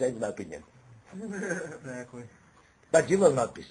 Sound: laugh

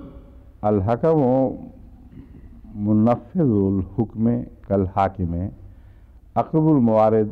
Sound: Arabic

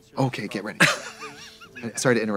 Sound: Katya hisses

